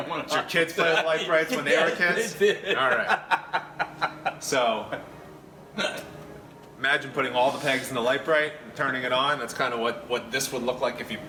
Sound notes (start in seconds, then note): 3.5 laugh